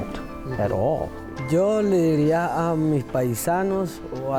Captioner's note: speaking foreign language